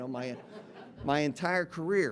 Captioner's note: audience laughing